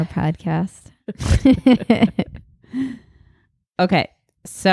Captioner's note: laughing